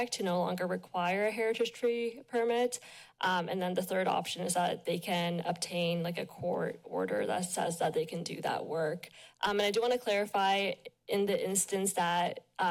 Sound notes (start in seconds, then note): none